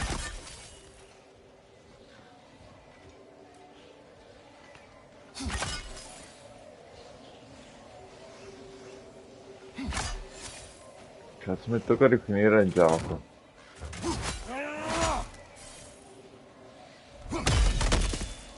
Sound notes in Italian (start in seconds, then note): 13.9 gemito; 14.4 urlo